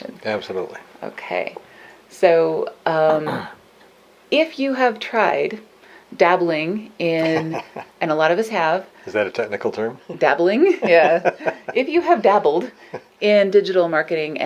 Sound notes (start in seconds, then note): 7.2 laughs; 10.8 laughs